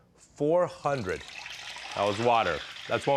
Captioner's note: sizzling